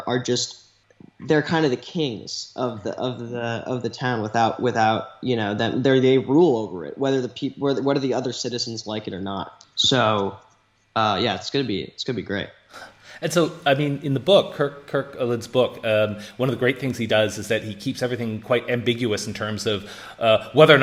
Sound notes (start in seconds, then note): 12.7 laughs